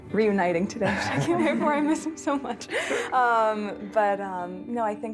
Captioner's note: laughing